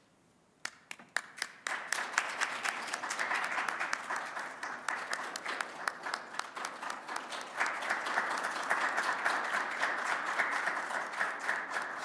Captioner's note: applause